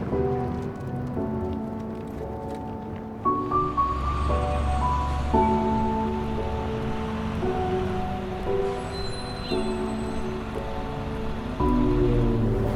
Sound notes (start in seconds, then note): 5.1 gentle music; 5.1 traffic humming